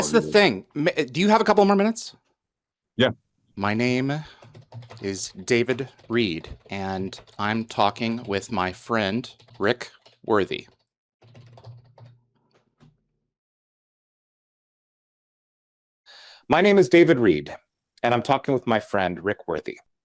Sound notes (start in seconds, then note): 3.2 typing text; 12.1 AI voice reading aloud